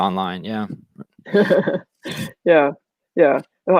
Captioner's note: laughs